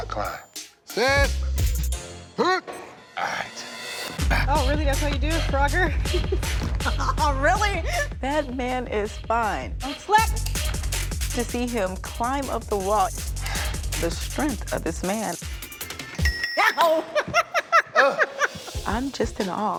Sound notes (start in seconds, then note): 1.0 stopwatch beeps; 5.8 laughing; 16.2 pipe clinks; 16.6 laughs